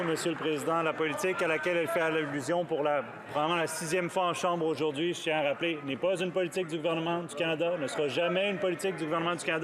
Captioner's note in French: applaudissements